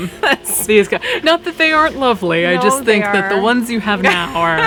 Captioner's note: laughing; laughs